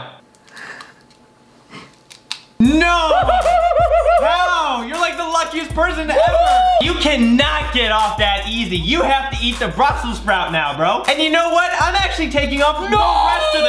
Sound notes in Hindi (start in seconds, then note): 1.7 करकराना; 3.1 हंसी